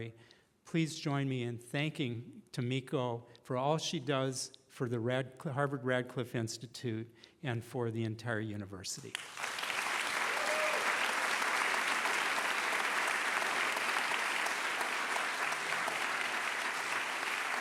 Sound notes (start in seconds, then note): 9.3 cheering